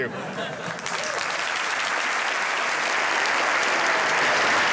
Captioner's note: applause